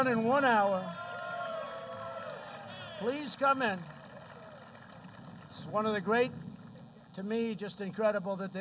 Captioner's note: applause